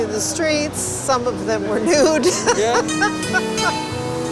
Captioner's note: laughing